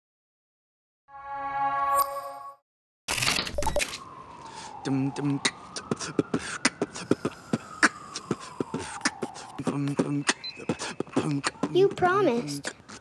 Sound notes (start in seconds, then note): 2.8 clicking, chiming; 4.2 beatboxing; 5.7 beatboxing continues